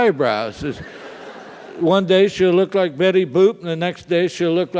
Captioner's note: laugh